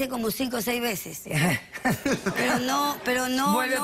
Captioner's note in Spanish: risas